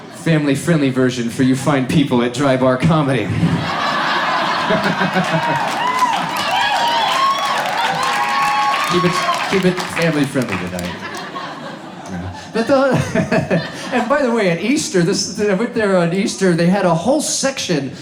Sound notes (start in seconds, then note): 3.5 crowd cheering